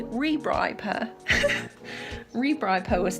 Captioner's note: laughs